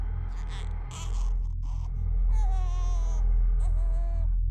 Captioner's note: breath huffing; ominous music; baby cooing